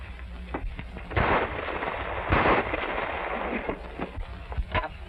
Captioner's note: gunshots